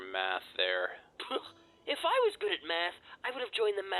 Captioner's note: scoffs